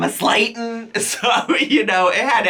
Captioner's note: chuckles